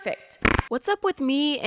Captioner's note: weird fart noise